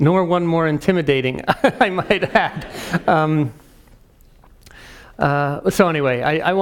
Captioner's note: laugh